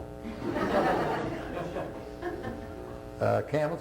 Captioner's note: laughter